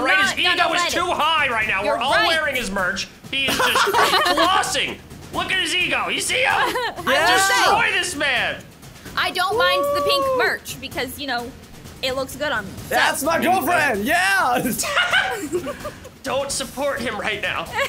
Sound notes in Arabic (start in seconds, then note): 14.6 ضحكات درامية